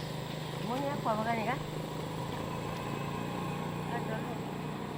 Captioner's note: foreign language